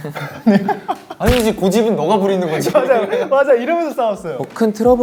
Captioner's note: fail to hold Laugh